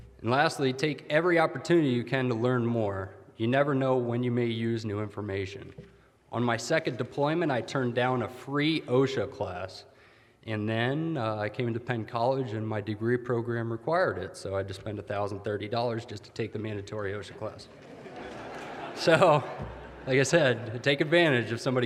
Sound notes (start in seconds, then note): 17.7 audience laughter